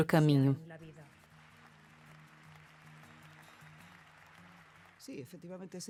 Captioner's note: applause